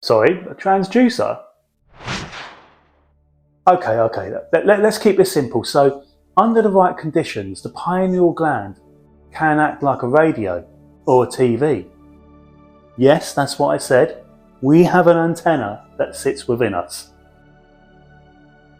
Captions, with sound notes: Sorry, a transducer? (air whooshing) Okay, okay, let's keep this simple. So, under the right conditions, the pineal gland can act like a radio or a TV. Yes, that's what I said. We have an antenna that sits within us.